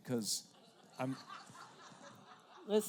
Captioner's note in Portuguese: risos da plateia